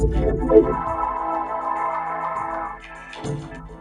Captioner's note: dial-up tone blares